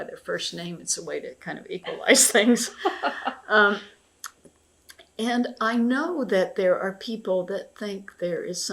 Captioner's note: laughter